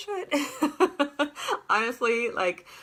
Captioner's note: laughter